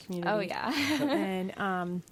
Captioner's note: laughs